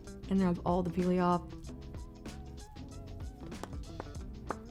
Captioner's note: smacks lips